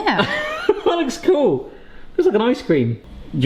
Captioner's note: chuckles